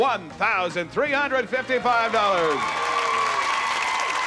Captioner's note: cheering and applause